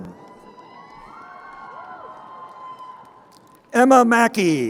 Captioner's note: crowd cheering